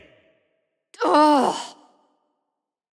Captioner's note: sigh